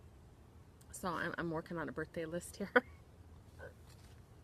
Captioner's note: laughs